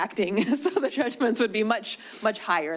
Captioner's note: chuckles